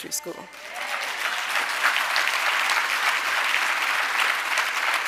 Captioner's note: audience applauding